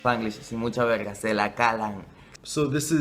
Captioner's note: spanish